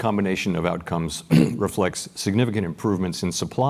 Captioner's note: cough